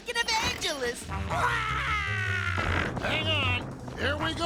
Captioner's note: crying